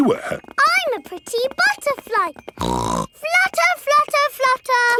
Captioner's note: snorts